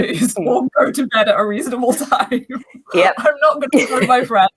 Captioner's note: laughs